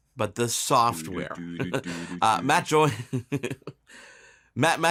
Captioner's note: beatboxing